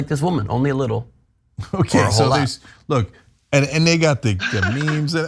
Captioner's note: laugh